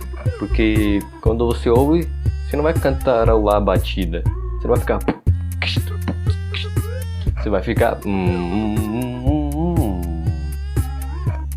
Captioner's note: damn beatbox